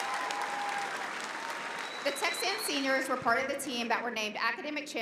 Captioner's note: cheering and applause